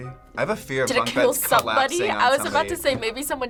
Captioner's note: laughs